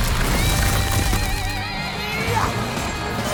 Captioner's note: grunting